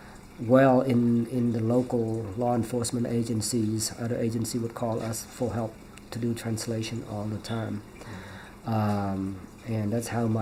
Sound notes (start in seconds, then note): none